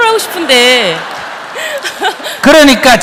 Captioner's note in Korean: 청중 웃음